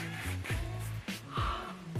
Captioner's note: audibly gasps